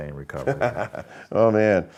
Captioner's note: laughing